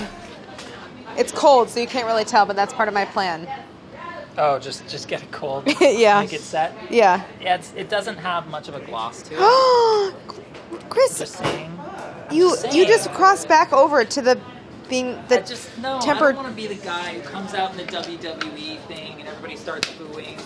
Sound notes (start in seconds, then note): 9.3 gasping